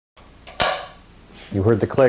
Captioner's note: slate click